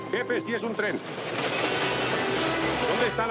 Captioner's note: train rumbling